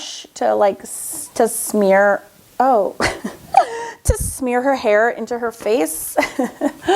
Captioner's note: laughs